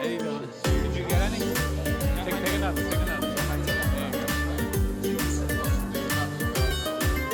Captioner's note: people chatter indistinctly; upbeat Italian music